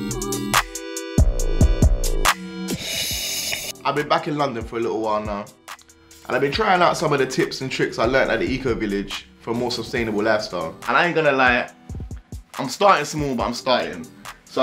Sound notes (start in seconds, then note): 2.6 slurping